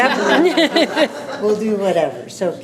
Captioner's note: laughing